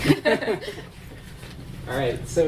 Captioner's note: laughing